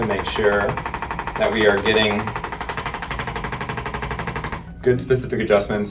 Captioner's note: ArthroStim tapping